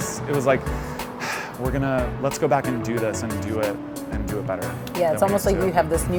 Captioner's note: sighs